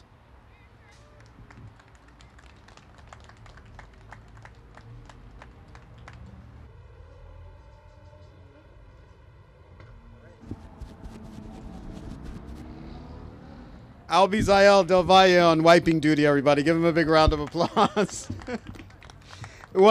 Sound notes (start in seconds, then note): 3.1 applause